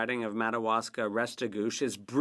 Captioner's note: speaking French